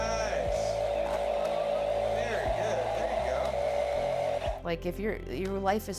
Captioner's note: toy engine roaring